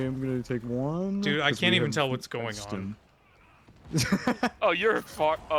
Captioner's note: laughter